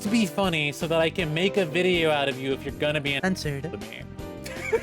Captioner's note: finale laughing